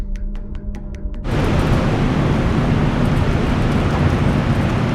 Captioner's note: blizzard whirring